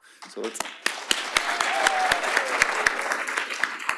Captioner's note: applause